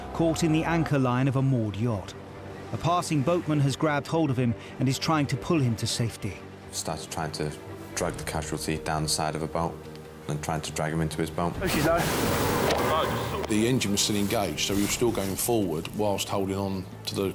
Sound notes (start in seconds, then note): 11.6 helicopter whirls